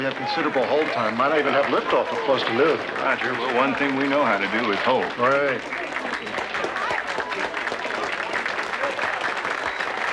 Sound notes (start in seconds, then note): 5.1 applauding